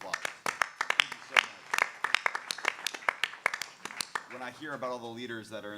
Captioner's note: clapping